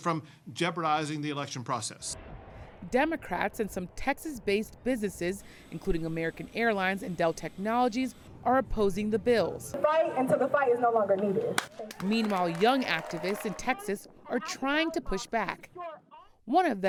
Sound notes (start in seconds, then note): 11.5 applause